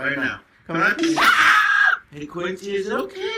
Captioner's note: dog barking